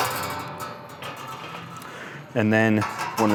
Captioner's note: metal clanging